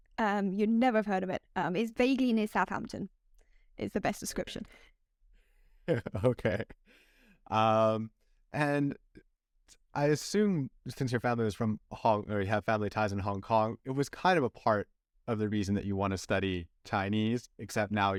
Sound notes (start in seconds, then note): 5.9 laughter